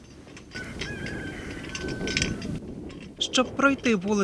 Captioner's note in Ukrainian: Спів півнів. Звуки вітру